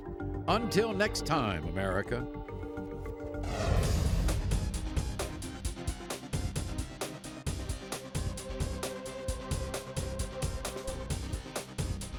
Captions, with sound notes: Until next time, America. (whooshing) (dramatic music)